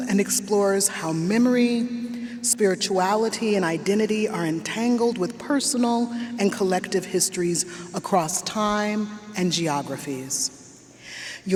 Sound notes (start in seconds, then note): none